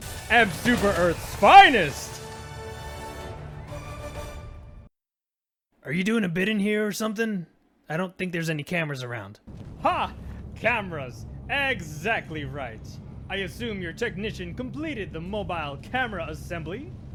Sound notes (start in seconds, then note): 2.5 triumphant Music; 4.8 silence